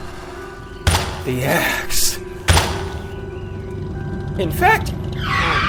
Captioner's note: axe thudding